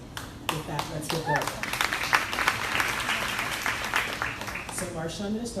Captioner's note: crowd applauding drowns out speaker